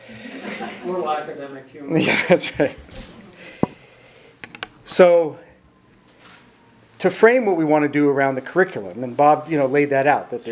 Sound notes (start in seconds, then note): 0.3 audience chuckles; 2.0 chuckles